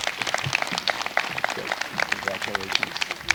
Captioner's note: applause